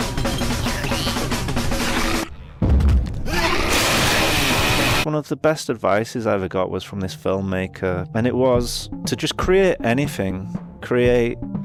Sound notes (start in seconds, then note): 2.3 audio booming; 3.2 creatures growling